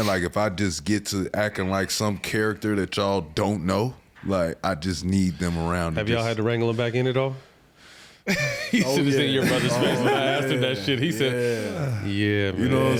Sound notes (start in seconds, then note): 8.2 Matt chuckles